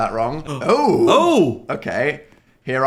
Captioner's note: surprised gasps